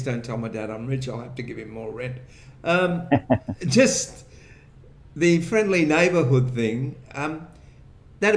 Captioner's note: laughter